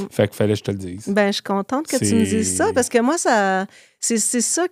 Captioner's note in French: grognement